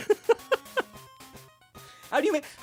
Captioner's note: laughs